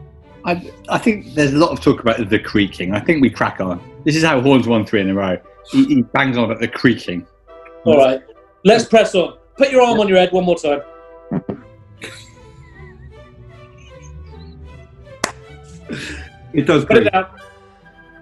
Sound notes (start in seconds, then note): 11.2 creaking; 12.0 giggling; 15.2 clap